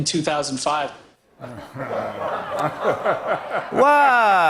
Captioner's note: laughter